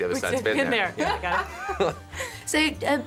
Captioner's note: they laugh